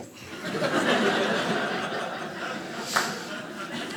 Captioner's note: audience laughing